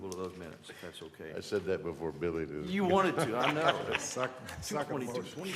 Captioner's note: laughter